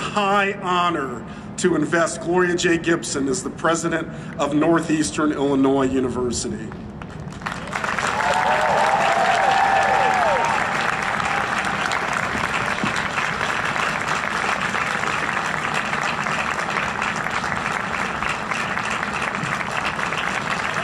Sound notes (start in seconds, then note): 7.2 huge Applause and cheering